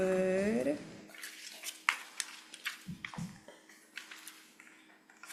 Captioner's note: papers shuffling